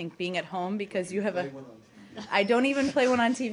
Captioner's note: laughter